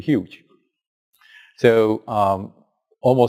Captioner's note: pause